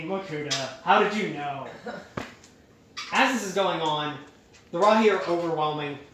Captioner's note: chuckling